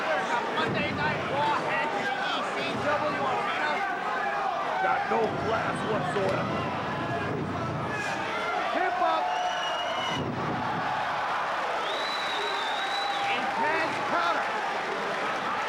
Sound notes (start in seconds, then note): 10.1 spectators cheering and applauding